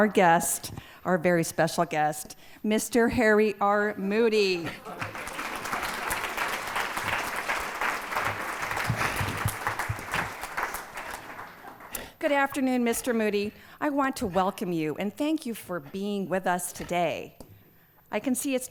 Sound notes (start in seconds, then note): 4.7 laughter and applause